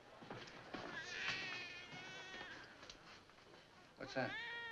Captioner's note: baby cries